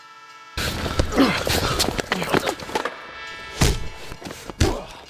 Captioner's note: train horn blaring; elbow thudding; skateboard whacking